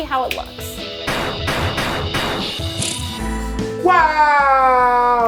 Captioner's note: accessories thudding